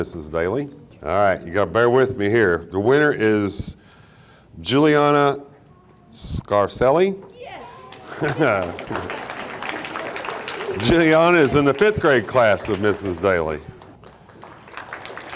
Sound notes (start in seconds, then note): 7.8 audience applauding; 8.0 announcer chuckling; 13.5 audience applauding